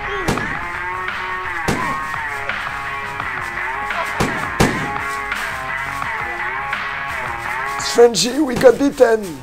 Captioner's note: firearm shooting not discreet at all